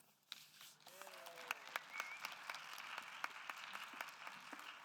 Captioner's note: audience applauding